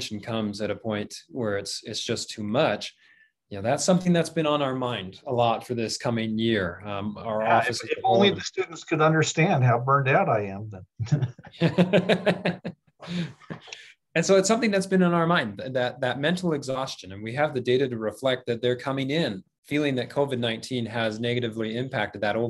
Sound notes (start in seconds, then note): 11.0 laughter